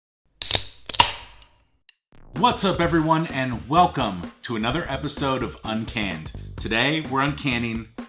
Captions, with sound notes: (can opening) - What's up everyone? And welcome to another episode of Uncanned. Today, we're uncanning